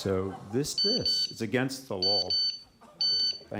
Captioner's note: timer beeps